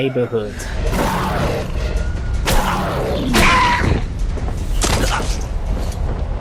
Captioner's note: sounds of suffering and pain